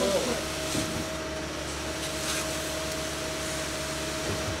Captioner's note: machine revving